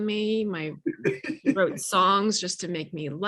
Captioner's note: laughing